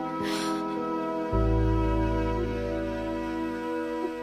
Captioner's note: Runt gasps